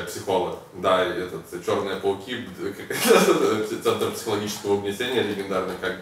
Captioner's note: laughs